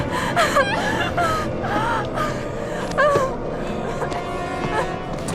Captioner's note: blonde woman whimpering